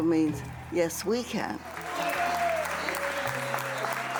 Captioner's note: applause